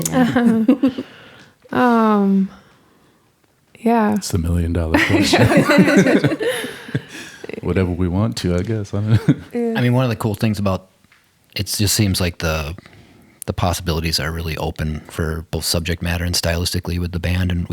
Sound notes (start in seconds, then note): 0.0 laugh; 4.9 all laugh